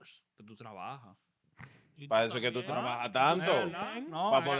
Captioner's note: speaking In Foreign Language